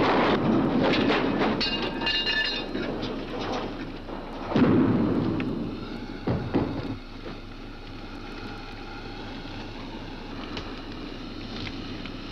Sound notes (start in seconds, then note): 5.4 car hisses